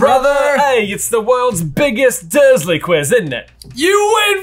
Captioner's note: accented